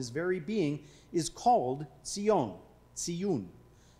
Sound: speaking foreign language

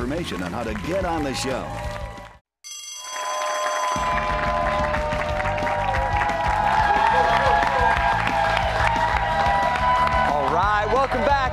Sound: bell rings

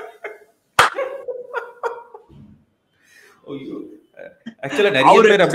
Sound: laughs

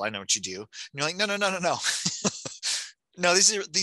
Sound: laughing

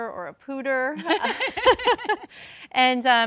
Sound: laughing

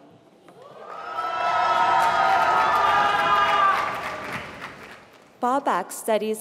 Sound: applause

